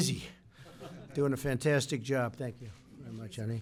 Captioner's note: laughter